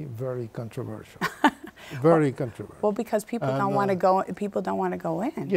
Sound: laughs

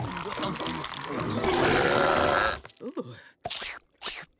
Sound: belching

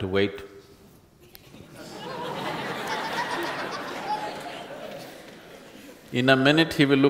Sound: laughter

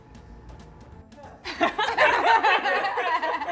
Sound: both laughing

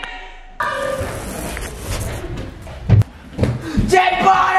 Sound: shouts in background

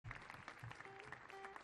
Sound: audience clapping; guitar thrumming

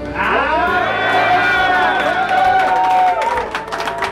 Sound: cheering

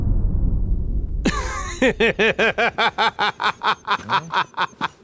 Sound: laughs

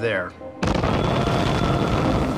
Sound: explosion; screams

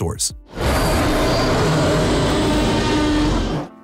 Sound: roaring

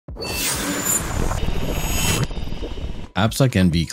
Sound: electronic tones

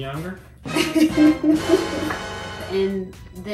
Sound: laughter

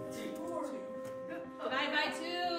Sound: people chattering

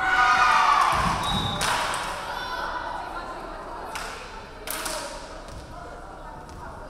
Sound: referee whistling; crowd cheering; referee whistling

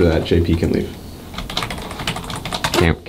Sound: typing

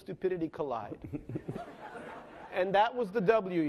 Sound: laughing

